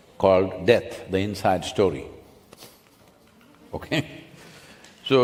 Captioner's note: laughs